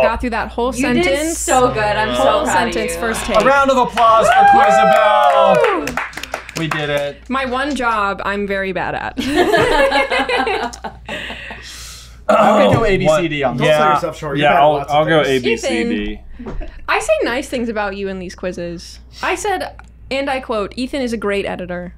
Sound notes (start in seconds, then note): 3.8 team applause and wooooooos; 9.2 laughter